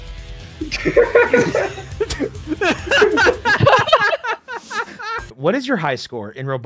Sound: laughter

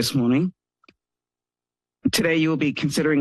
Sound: pause

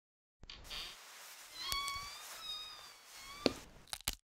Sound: bed creaking

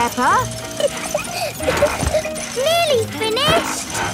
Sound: peppa laughing

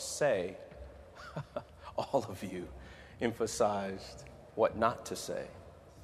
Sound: laughing

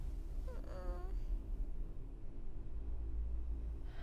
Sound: moaning

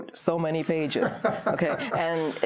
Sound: laughs

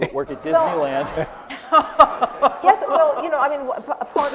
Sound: laughter

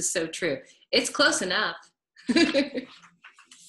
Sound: laughs

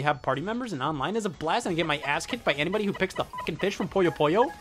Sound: beep

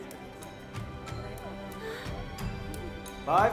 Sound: gasps

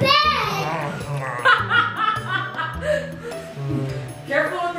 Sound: laughing

